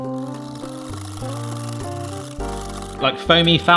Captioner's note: whisk rattling